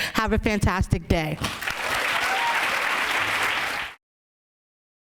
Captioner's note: applause